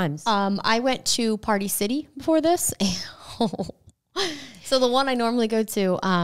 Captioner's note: laughs